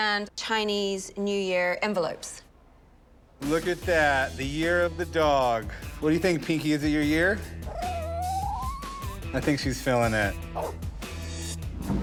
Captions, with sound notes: Chinese New Year envelopes. - Look at that, the year of the dog. What do you think, Pinky? Is it your year? [dog whining] I think she's feeling it. [dog barks]